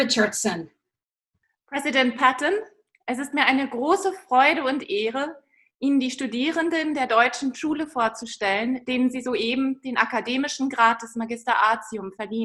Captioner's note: speaks German